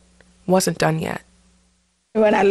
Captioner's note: soundbite of archived recording